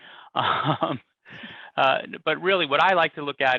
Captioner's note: chuckles